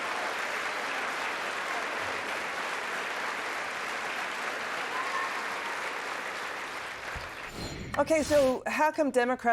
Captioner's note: cheers and applause